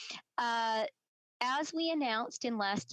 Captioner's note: speaking French